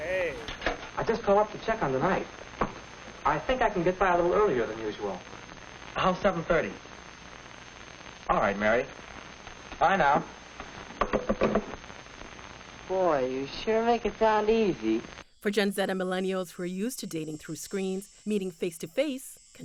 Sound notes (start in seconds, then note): 10.8 hanging up phone